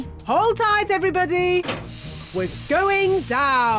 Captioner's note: none